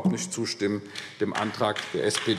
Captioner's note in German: Beifall AfD